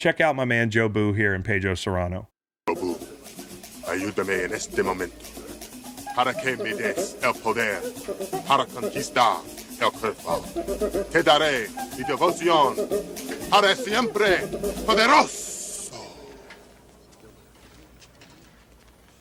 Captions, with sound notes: Check out my man, Jobu here and Pedro Cerrano. (speaking in foreign language)